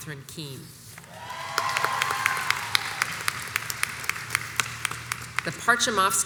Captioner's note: crowd cheers and applauds